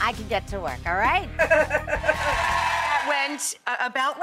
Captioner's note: laughing